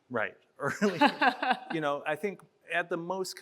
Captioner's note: chuckles